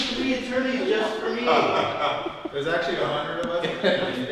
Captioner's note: chuckles